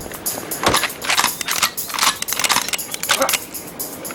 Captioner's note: guns click